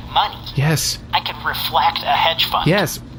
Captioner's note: excited